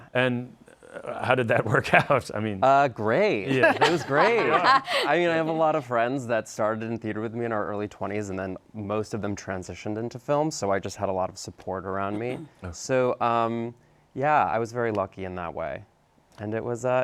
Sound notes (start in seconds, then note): 5.1 laughing